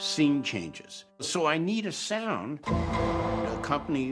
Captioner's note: double tone plays